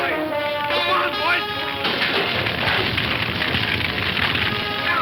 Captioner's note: fire crackling